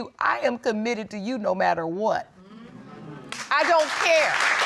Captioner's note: audience exclaims; audience applauding